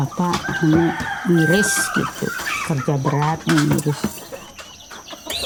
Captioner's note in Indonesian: tapping